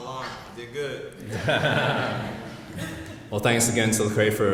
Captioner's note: audience laughs